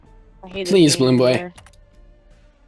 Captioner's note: someone else talking in the back